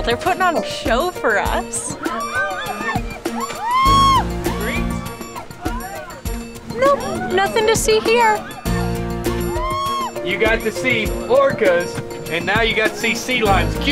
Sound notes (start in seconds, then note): 2.6 whale watchers cheer